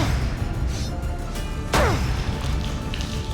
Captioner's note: grunt